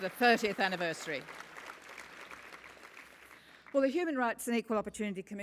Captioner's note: applause